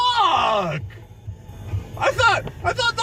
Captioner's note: gets progressively louder and angrier